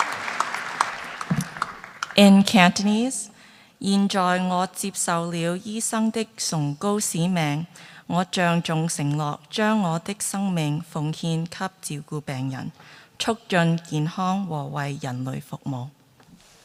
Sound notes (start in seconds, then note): 0.0 applause; 3.7 speaking cantonese